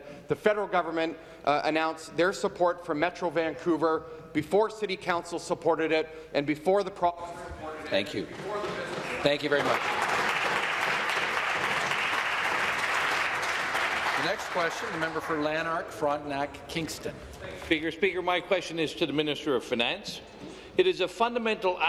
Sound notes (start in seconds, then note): 12.5 voice trails; 16.1 applause